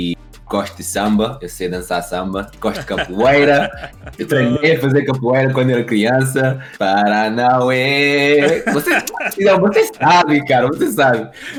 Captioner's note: haha